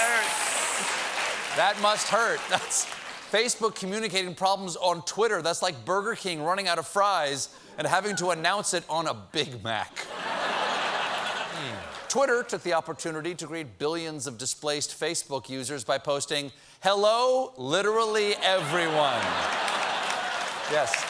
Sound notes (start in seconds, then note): 10.0 laughter